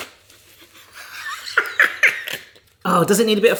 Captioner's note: laughs